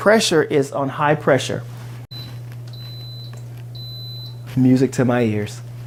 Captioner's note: machine beeping